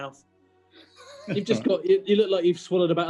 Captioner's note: sniggering